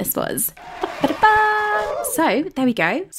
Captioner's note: cheering